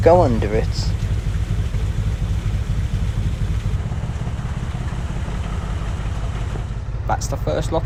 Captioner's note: narrowboat engine sound